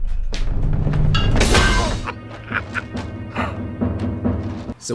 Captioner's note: cackles